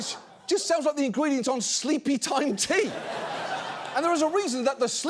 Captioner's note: audience laughs